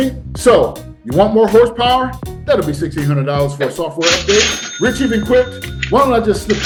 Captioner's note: cha ching clip